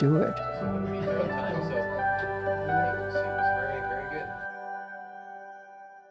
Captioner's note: men talk amongst themselves